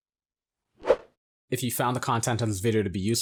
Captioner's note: air whooshing